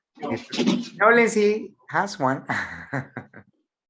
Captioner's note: chuckles